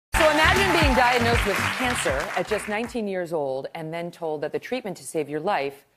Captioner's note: applause